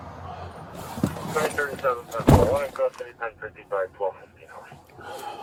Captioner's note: radio chatter